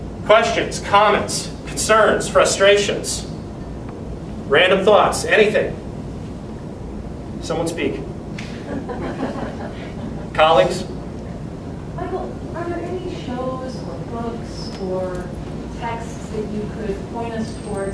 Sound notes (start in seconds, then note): 8.4 quiet laughter from audience